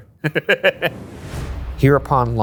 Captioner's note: laughs